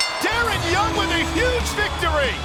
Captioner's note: bell ringing